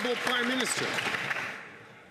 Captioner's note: some Applause